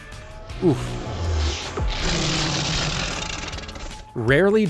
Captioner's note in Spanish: King Hippo ruge